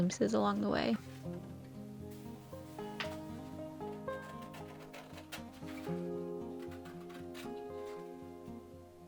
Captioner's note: assorted paper sounds